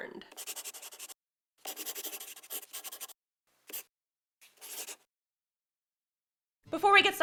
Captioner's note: the sound of a pen scratching. LOGO